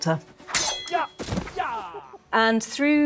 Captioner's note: swords clanking